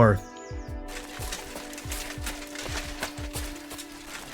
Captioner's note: Henry's new armor clanging up a storm